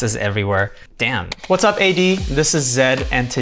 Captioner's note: button clicking